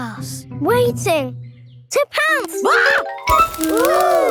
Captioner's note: screams